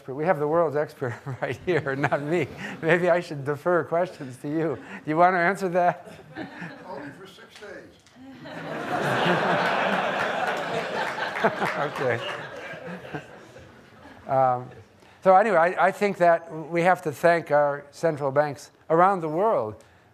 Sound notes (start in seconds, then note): 1.4 laughs; 8.2 audience laughing; 12.9 laughs